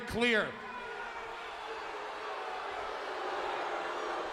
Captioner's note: audience booing